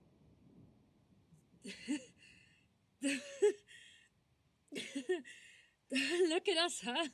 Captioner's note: nyx starts laughing bitterly